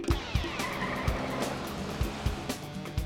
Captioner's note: tires screeching